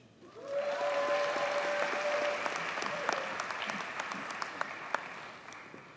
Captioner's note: audience cheers and applauds